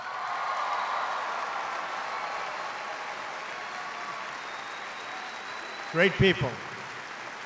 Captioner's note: applause